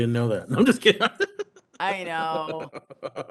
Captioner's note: laughs